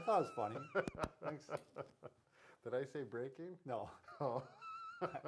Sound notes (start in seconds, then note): 0.0 laughs; 4.0 laughs